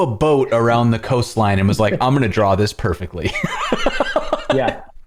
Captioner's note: laughter